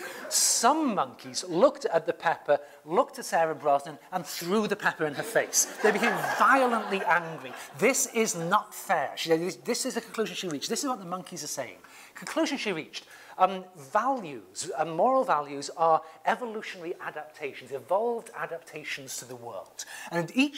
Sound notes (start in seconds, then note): 5.2 laugh